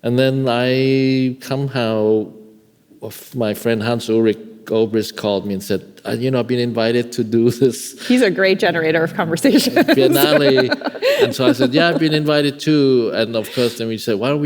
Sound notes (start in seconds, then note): 9.4 laughing